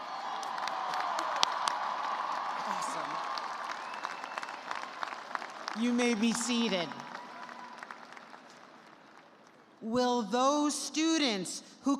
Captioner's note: cheers and applause